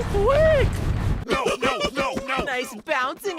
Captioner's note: bottle giggles